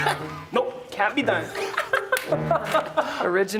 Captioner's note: sniggering